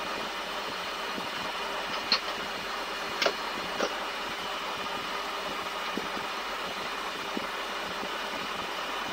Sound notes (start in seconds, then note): 1.9 sound of the parking brake lever being moved